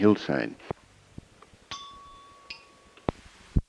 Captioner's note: bell Sound